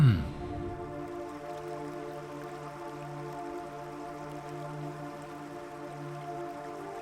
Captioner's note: peaceful music; water whooshing